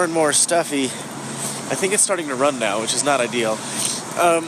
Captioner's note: sniffles